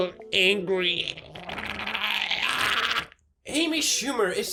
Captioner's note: loud gargling